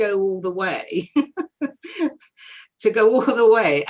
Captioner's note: laughing